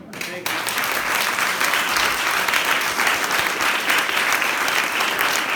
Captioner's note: applause